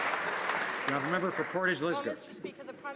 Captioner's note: some Applause